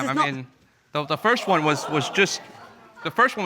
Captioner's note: audience murmuring